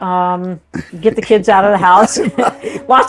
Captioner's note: laughs